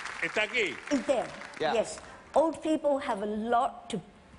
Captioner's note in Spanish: habla en ingles